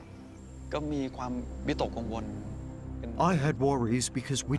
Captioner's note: speaking Thai